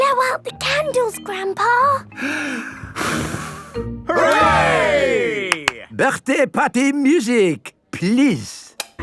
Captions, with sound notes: - Blow out the candles, Grandpa! - (breathes deeply, blows) - Hooray! - (claps) Birthday party music, please!